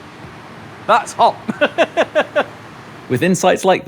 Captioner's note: laughs